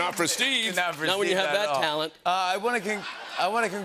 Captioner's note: laughter